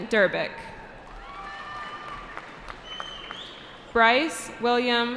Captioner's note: cheering